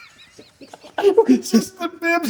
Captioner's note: laughter